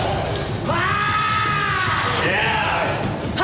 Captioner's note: maniacal yelling